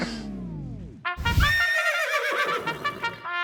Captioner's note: trumpet music; horse whinnies